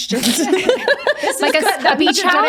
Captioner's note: laughing